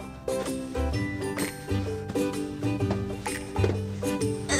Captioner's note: popping sounds